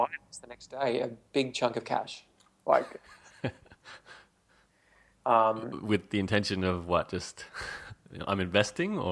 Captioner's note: chuckles